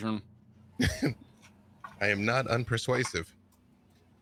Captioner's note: laughs